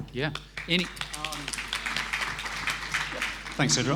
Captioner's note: applause